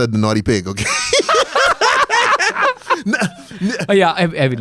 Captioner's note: laughs